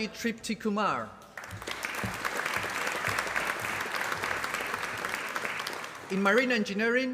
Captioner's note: applause